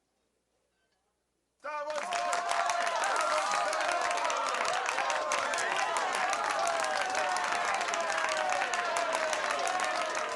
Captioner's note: <i>patrons applauding</i> <i>and cheering</i>